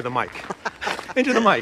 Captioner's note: laughs